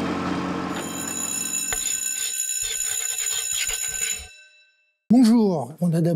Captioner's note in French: bruit de moteur; bruit de sonnette